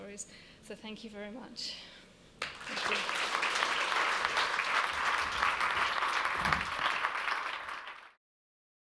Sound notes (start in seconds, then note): 2.4 applause